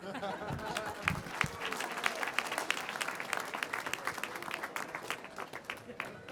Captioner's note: applause